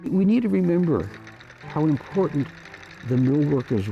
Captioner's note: sewing machine stitching